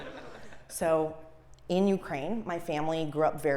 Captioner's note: laugh